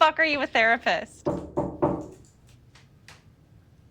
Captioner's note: knocking